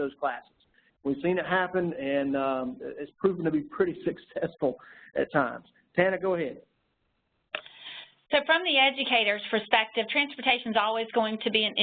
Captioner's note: laugh